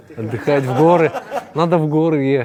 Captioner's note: laughter